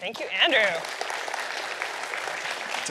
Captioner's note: applause